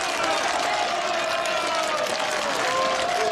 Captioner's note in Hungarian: üdvrivalgás, vastaps